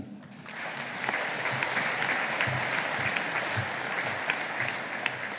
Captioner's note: audience applauding